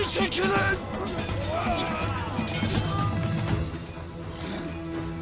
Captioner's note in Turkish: Çarpışma sesleri